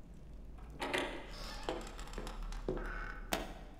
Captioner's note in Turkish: Kapı açılma sesi